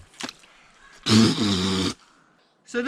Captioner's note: spits loudly